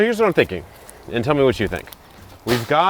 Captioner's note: bag thumping